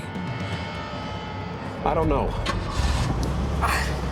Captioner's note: ignition starts; exhales deeply